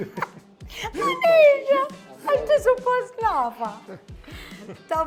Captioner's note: both laugh; chuckles